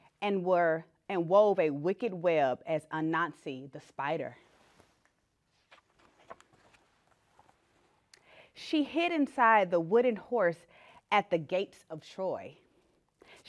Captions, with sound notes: and wove a wicked web as Anansi the Spider. (page turning) She hid inside the wooden horse at the gates of Troy.